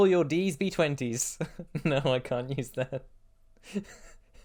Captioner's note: laughing; laughter